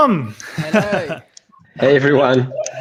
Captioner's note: laughing